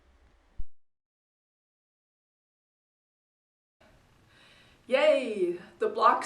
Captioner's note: silence